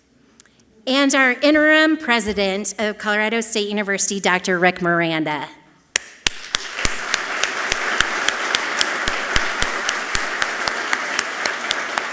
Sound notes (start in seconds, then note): 6.2 audience clapping loudly